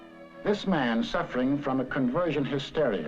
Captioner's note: voiceover